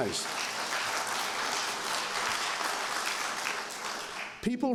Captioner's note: applause